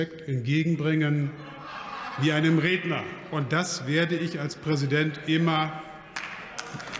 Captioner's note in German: Lachen bei der AfD